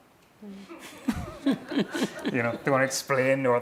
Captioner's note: laughing